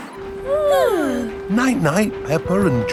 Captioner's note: both yawning